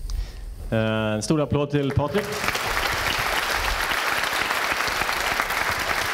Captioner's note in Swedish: applåder